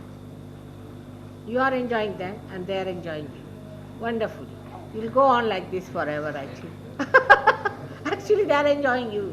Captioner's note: shri mataji laughs